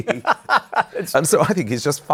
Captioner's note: laughter